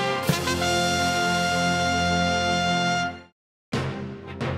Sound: none

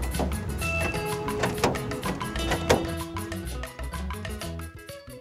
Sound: door clicking

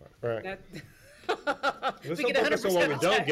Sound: laughing

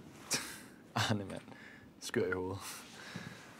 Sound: speaking Danish

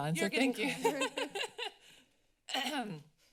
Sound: laughter; clears throat

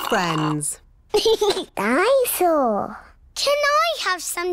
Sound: giggles

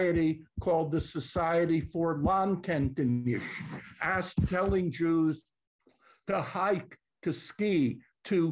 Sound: non-english

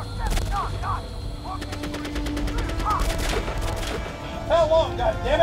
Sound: guns firing

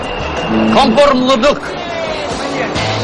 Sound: non-english speech

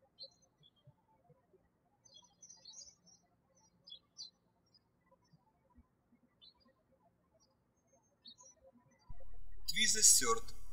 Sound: birds chirping

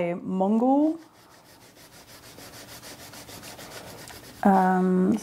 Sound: chalk scribbling

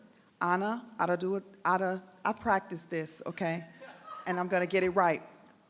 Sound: stammers

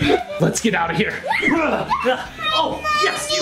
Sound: screeching

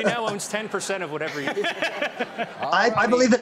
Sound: James laughs

